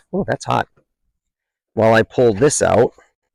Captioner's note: none